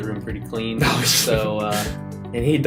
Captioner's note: laughs